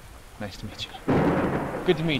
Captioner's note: thunder